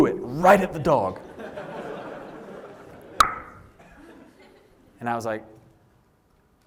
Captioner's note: laughter